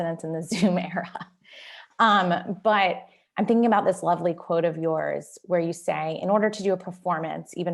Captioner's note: laughter